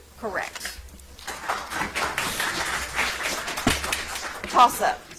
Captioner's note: audience applauds